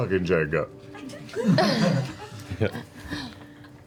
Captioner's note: laughter